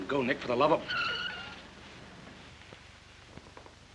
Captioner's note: tires screech